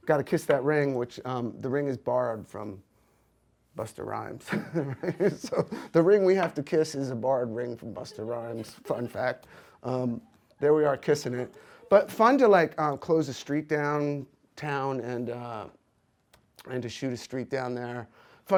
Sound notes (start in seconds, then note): 4.4 laughs